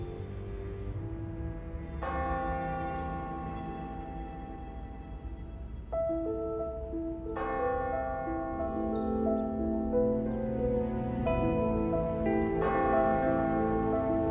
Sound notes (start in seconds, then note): 1.6 church bell ringing; 5.6 mystical piano music